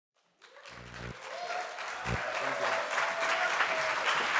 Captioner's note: applause